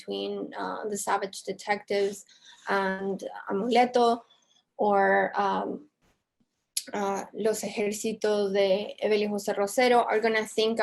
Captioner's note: spanish